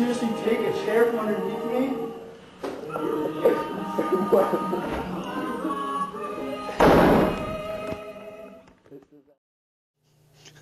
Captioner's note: door slams